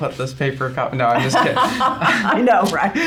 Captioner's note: both laughs genuinely